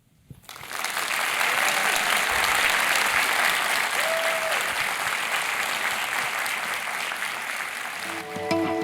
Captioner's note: applause